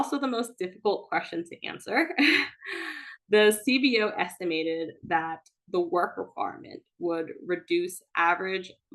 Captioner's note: chuckles